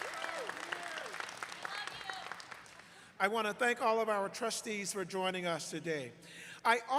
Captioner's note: applause